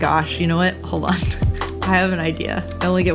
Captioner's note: laughs